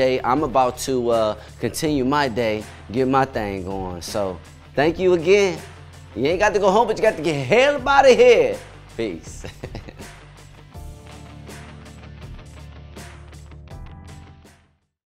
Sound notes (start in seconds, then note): 9.3 chuckles; 10.5 upbeat music